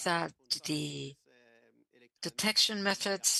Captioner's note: speaking French